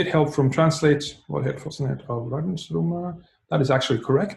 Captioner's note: speaking in a foreign language